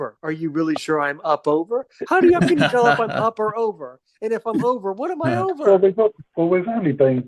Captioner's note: laughter